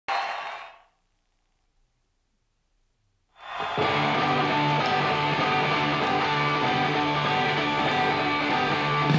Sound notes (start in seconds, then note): 0.4 applause fades; 3.4 audience applauds; 3.7 upbeat rock music begins